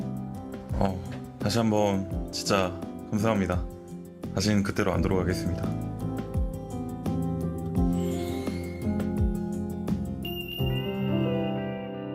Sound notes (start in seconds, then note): 1.7 voiceover